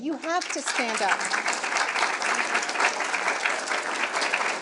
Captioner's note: audience clapping